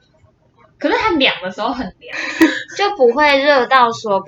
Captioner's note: laughter